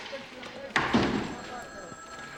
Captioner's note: door closes